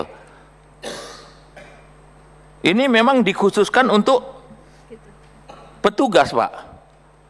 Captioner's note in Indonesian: berdehem